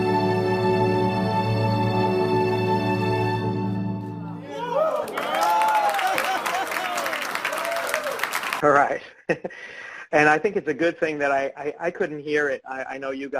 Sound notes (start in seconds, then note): 4.2 cheering and clapping; 9.3 laughs